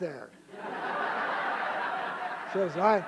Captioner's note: laughter